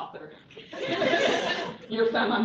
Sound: laughter

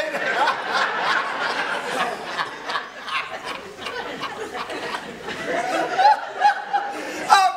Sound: laughing

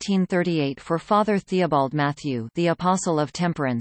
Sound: in Irish

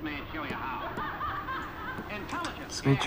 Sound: laughing from TV

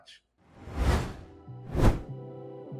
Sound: whooshes; loFi music

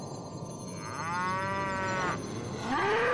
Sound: mooing

